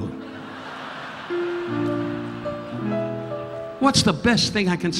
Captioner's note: audience laughing